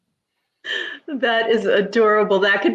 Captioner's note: laughs